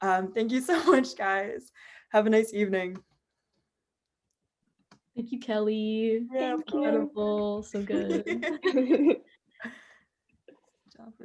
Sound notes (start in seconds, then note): 7.9 laughter